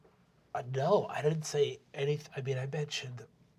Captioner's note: nasally